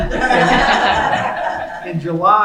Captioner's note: laughing